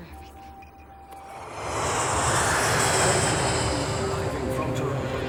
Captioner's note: plane engine roars; PA System